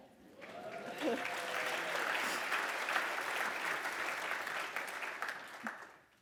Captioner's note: cheers and applause